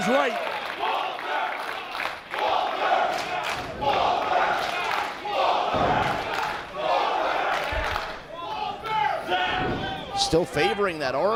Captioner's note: applause